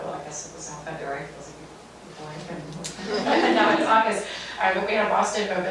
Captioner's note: audience laughing